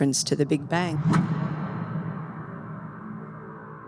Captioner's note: loud band followed by warped sounds